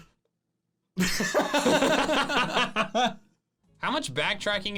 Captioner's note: laughing